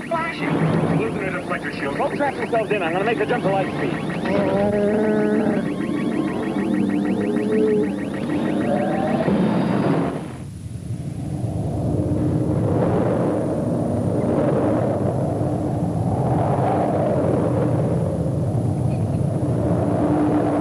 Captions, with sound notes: - What's that flashing? - We're losing our deflector shield. Go strap yourselves in. I'm going to make the jump to light speed. (Chewbacca groaning) (ship device beeping rapidly) (craft hovering)